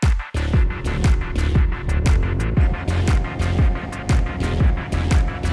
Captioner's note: intense music; engine running; intense music